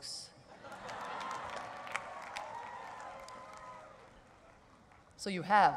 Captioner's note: laughter and applause